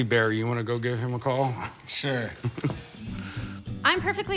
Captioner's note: chuckles